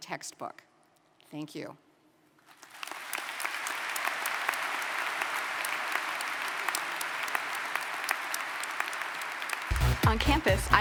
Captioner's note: applause